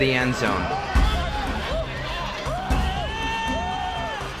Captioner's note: players and fans cheer